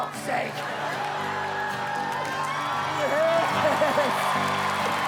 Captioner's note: audience Cheerin